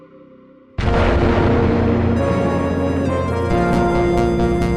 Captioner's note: explosion, music